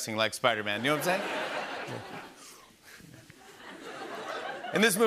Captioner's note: laughter